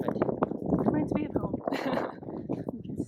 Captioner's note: laughs